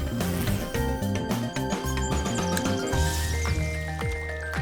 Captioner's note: birdsong